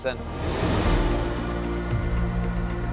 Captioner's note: air whooshing; gentle music